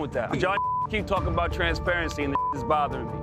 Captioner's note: beep